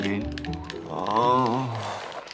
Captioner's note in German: Ächzen